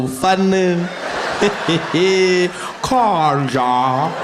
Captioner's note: Zuma laughing